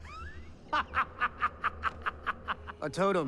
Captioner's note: cackling